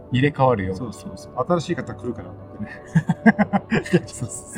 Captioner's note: laughs